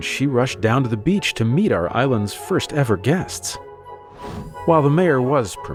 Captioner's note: whoosh sound